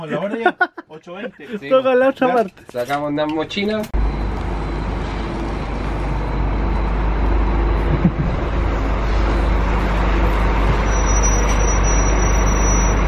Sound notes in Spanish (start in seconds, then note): 2.5 risas; 3.9 Sonido del bus 'Marcopolo New G7 - Scania' finalizando ruta